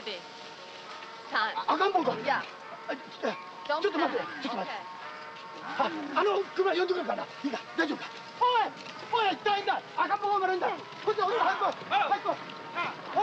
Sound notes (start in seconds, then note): 2.0 shouting in Japanese; 5.5 speaking Japanese; 8.8 shouting in Japanese